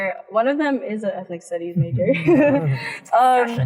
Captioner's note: laughs